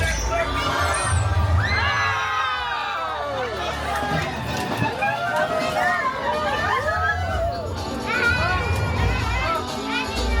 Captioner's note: guests screaming, laughing and cheering